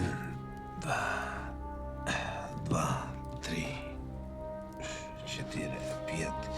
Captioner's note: counts in Russian